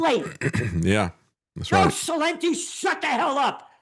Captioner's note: laughing